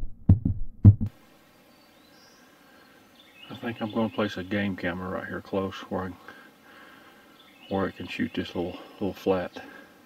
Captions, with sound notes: (birds chirping) I think I'm gonna place a game camera right here close where I can shoot this little flat.